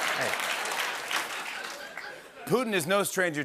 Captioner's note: laughter